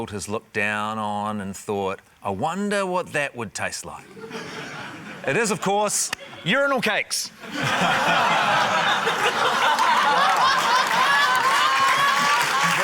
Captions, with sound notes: has looked down on and thought, 'I wonder what that would taste like.' (SCATTERED LAUGHTER) It is, of course, urinal cakes! (LAUGHTER) - Wow. (LAUGHTER, APPLAUSE)